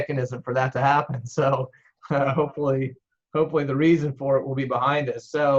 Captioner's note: laughs